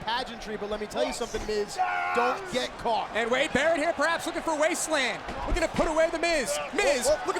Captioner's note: none